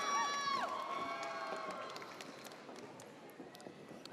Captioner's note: audience cheers